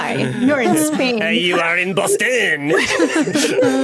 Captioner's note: French accent; group laughing